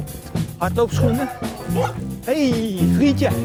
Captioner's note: dog barks